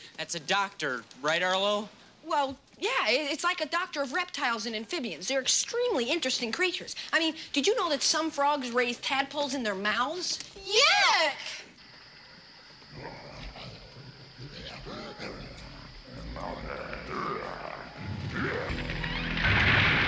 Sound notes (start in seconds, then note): 14.4 monster growling